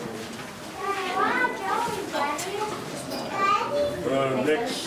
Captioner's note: kids chattering